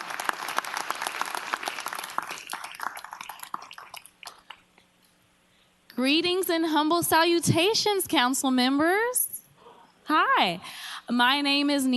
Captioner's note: applause